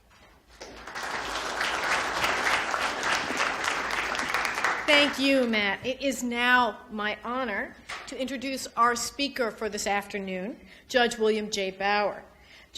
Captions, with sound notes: (audience applauds) - Thank you, Matt. It is now my honor to introduce our speaker for this afternoon, Judge William J. Bauer.